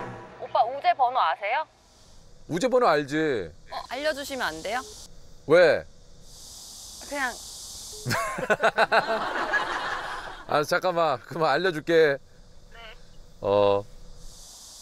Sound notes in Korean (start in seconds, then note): 8.0 웃음소리